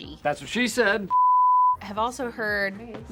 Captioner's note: beep